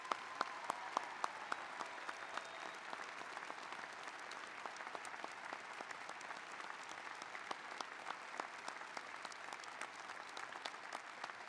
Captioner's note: applause